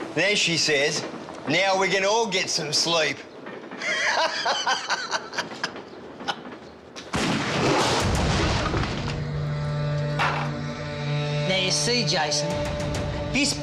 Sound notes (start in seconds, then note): 3.8 laughing; 7.0 gun fires; 7.9 dramatic music